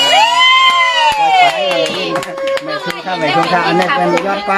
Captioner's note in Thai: ปรบมือ